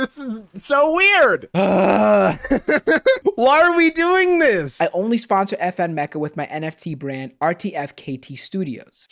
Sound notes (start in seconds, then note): 1.5 laughs while stressed